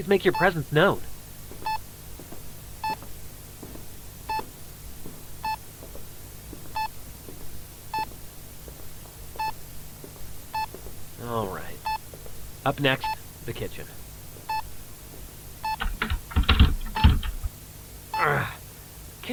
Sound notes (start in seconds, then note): 1.5 Bruce searches the room as his EMF meter beeps steadily